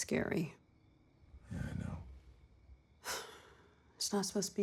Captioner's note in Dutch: zucht